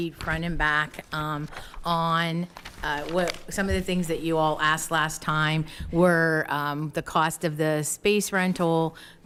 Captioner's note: none